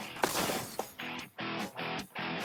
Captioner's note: smash